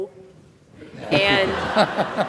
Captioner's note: laughter